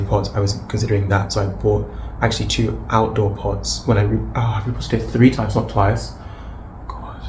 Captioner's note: sighs